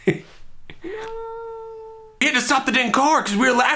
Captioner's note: scream in background